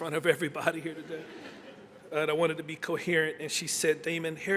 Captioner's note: laughter